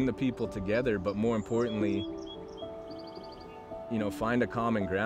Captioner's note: birds chirping